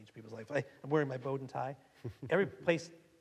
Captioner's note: laughing